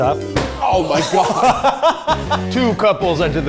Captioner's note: laugh